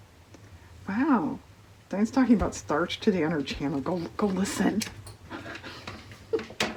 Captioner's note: laughs